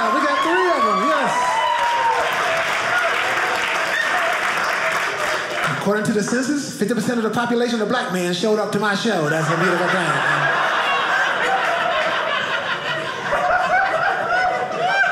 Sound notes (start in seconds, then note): 1.9 audience cheering; 9.1 audience laughing